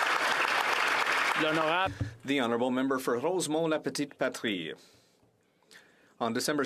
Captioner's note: applause